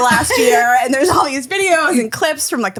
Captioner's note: laughing